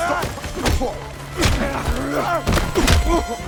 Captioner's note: groaning